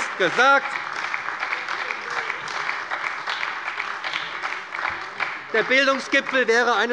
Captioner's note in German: Beifall bei der SPD